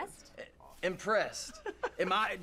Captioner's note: laughter